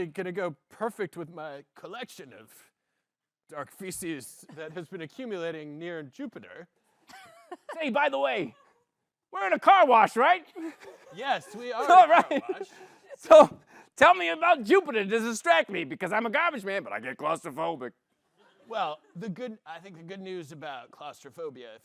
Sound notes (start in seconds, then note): 8.2 gruffly; 12.6 gruffly; 13.5 laughs